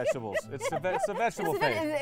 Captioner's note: laughing